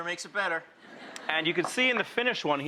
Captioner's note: audience laughs